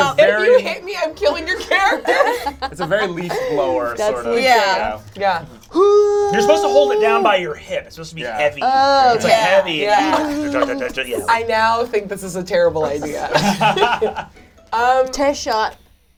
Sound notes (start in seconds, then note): 5.7 yells excitedly